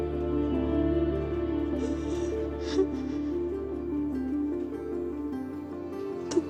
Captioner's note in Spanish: Sollozos